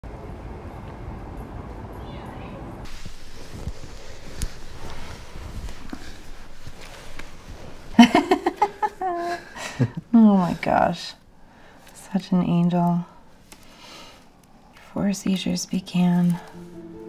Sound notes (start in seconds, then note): 7.9 laughing